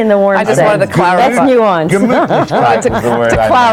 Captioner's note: laughing